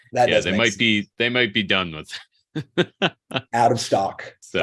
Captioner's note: laughs